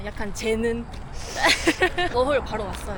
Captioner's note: sigh